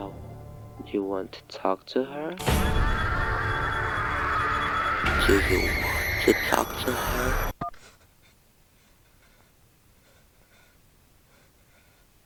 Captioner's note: screaming in the background